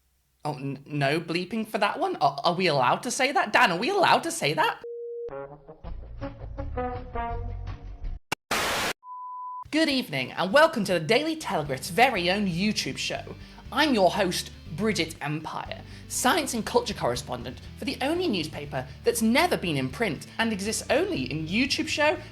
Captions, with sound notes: Oh, no bleeping for that one. Are we allowed to say that? Dan, are we allowed to say that? (beep) (upbeat music) (static) Good evening and welcome to The Daily Telegrift's very own YouTube show. I'm your host, Brigitte Empire, science and culture correspondent for the only newspaper that's never been in print and exists only in YouTube show